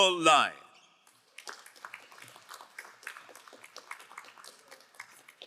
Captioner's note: crowd applauding